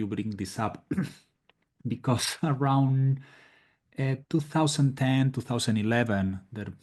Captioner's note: cough